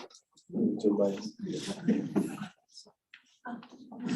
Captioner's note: people murmuring